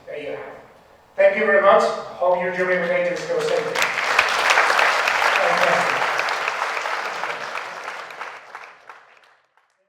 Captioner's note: clapping